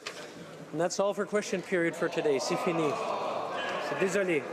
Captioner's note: speaking alternate language